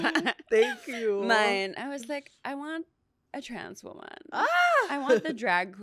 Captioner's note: laughs; laughs